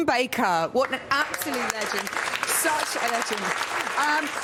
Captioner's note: applause